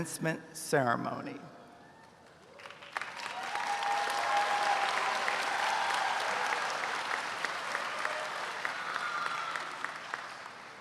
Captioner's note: applause